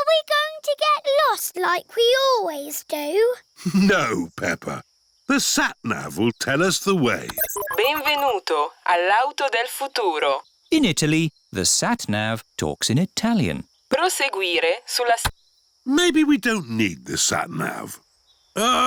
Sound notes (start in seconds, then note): 3.6 chuckles; 7.1 beeps; 10.0 speaks italian; 14.2 sat nav talks in italian